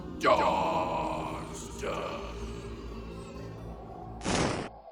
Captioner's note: wailing of lost souls